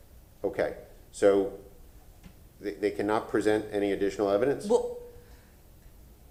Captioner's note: ~distortion~